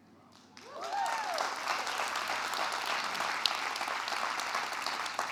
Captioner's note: audience applauding and cheering